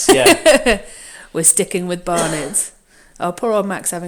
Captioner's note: laughs